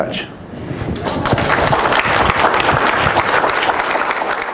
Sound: audience claps

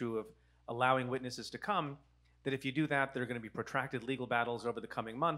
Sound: none

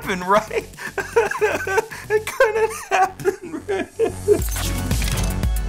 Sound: crying; bright music

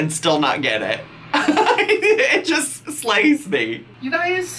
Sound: laughing

